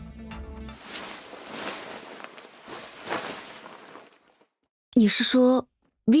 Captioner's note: the sound of changing clothes and tidying up can be heard from inside